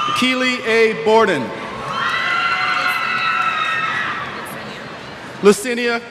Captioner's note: cheers